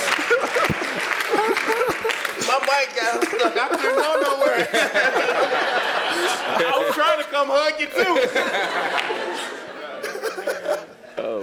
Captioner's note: laugh